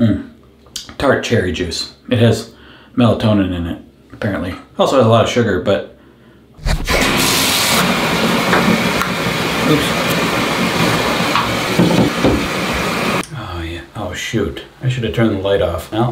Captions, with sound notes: Mmm, tart cherry juice: it has melatonin in it, apparently. Also has a lot of sugar, but. (water running) Oops. Oh yeah, oh shoot, I should have turned the light off.